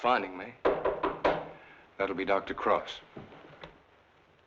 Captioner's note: fist rapping